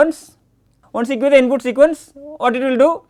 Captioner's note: click